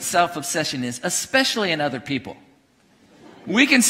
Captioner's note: congregation laughing